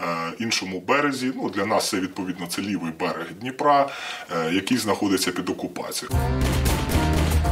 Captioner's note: russian